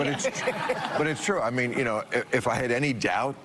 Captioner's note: laughter